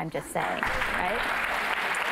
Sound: applause

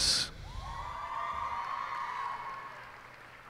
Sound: cheers and applause

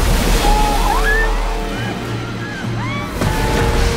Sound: crowd clamoring

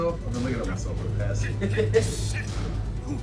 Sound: laugh

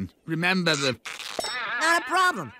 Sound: creak! boing!

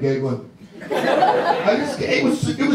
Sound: audience laughs

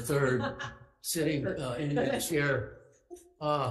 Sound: chair laughs

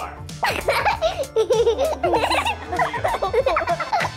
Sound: children laughing

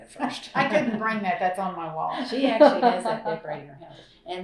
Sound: laughter

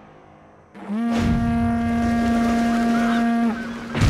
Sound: horn sound

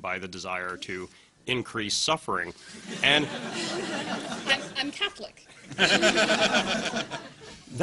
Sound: laughter

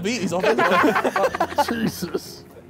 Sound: laughing

